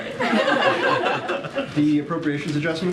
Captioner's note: laughter